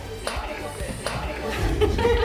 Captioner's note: upbeat music playing; laughs